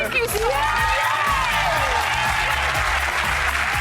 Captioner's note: cheers and applause